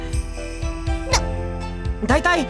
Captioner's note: disbelief